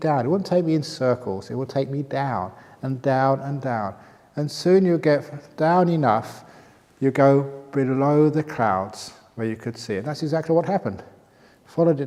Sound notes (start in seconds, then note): none